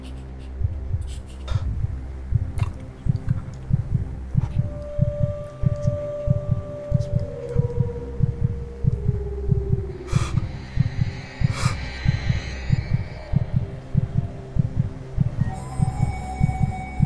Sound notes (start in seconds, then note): 0.5 heart Beating; 1.0 heavy Breathing; 8.1 panicked Breathing Continues; 13.3 heart Beat Continues; 16.3 suspenseful Music